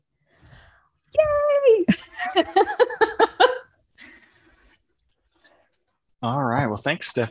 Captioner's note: laughs